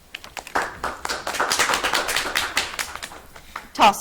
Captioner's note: audience clapping